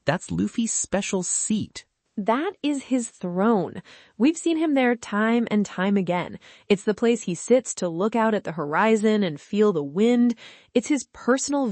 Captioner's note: donk